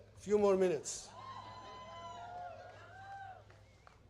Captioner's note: applause